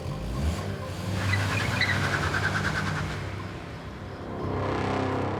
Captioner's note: tires squealing